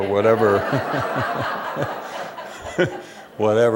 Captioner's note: laughter